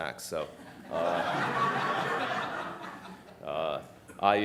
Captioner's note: audience laughing